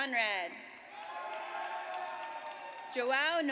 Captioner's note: audience cheers